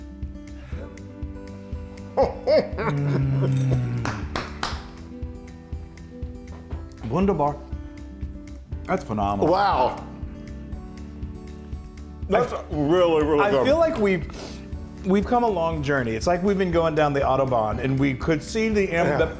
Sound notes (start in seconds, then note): 2.1 laugh; 3.9 applause